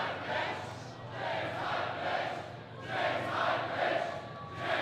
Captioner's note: crowd